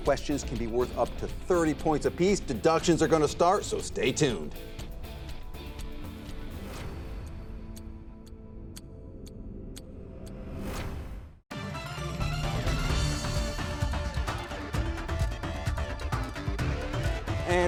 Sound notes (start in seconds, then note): 5.0 timer ticking; 11.5 intense gameshow music